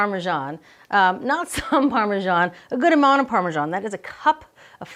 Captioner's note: laughing